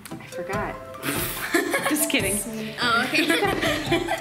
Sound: laughing

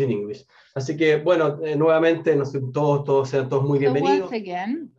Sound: speaking in a foreign language

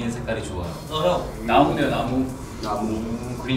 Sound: speaking Korean

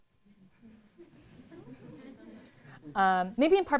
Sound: laughter

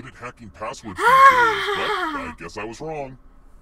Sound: makes an excited noise

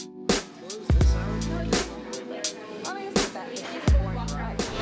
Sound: chatter

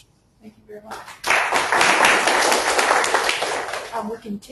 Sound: audience claps

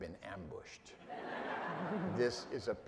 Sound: audience laughing

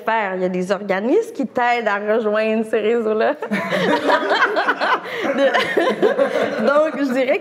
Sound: laughs

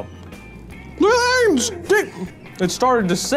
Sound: yells

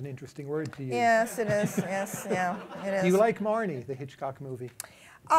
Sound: laughter

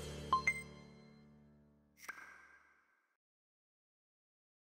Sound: electronic beeps

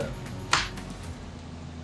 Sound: clap

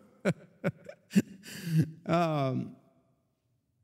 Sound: laughing

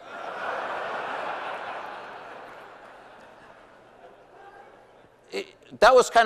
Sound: laughter

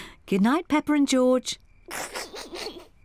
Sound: snickers; oinks

